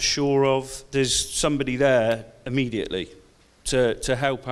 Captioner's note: snaps